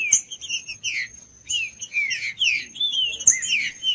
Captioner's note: trinca ferro cantando